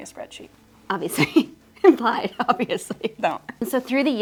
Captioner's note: laughs